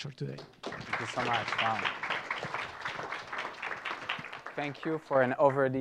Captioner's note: applause